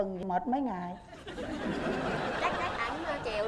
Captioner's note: laughing